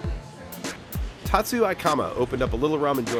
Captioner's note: voiceover